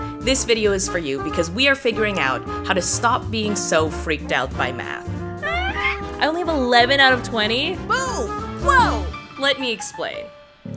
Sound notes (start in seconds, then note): 5.4 whines